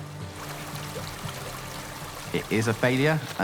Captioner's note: water runs